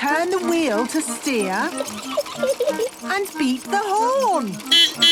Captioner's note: giggling; beeping